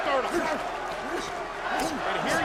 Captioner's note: Randy grunting